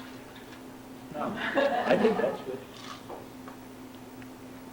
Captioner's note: laughter